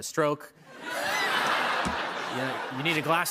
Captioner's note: laughter